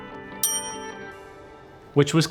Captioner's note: ding